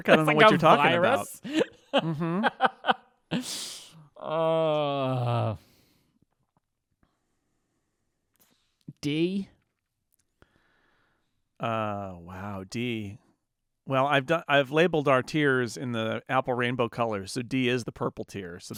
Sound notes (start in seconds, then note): 2.0 laughing